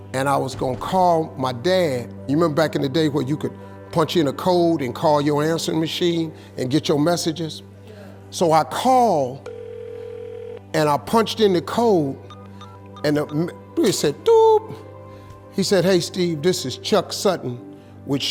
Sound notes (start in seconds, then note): 9.4 phone ringing; 12.2 makes beeping sound